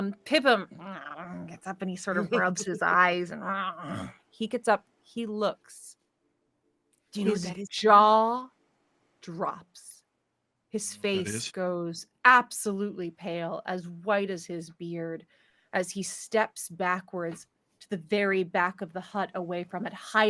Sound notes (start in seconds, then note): 1.1 groans; 3.8 groans